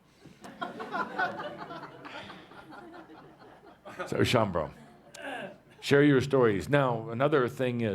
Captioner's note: laughter